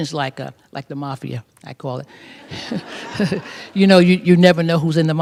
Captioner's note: laughter